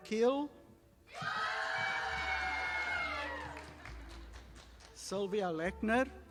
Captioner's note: audience applauding